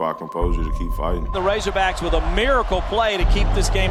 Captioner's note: voiceover